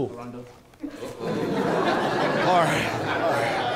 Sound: attendees laughing

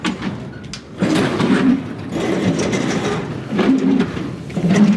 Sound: machine grinding

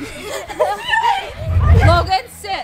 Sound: squealing

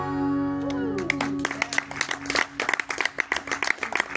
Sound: applause

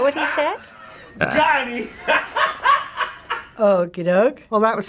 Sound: laughing

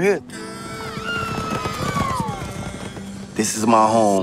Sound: galloping

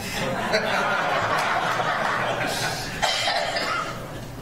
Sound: audience laughs

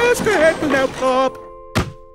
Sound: thud

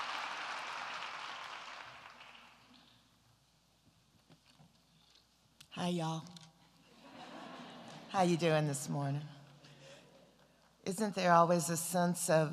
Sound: applause

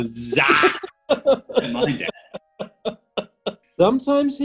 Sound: giggles

